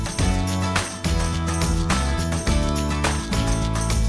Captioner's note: applause